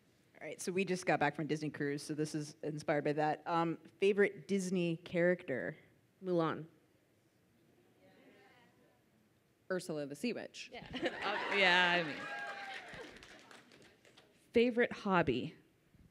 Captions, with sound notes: - All right so we just got back from Disney Cruise so this is inspired by that, favorite Disney character? - Mulan. - Ursula the sea witch. (audience cheers) - Favorite hobby?